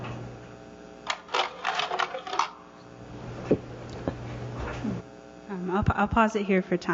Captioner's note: slide carousel sound